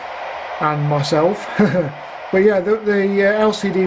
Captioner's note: laughs